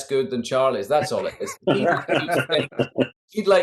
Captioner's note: Charley laughing